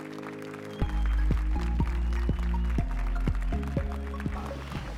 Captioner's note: applause and cheers